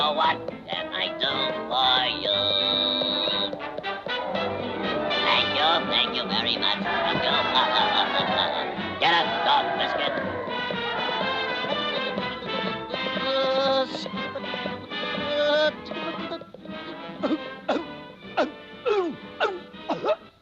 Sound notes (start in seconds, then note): 4.9 citizens cheering; 6.8 chuckling; 12.3 Popeye humming; 12.3 horse clopping; 17.5 vizier coughing